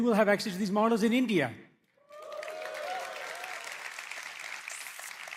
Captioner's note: cheers, applause